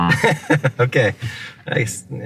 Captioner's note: laughs